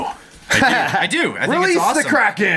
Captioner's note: laughing